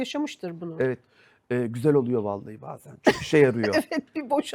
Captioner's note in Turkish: kahkaha